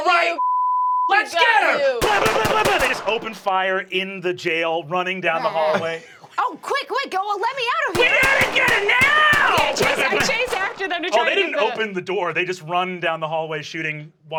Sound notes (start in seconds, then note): 0.4 beep; 2.0 gun shots firing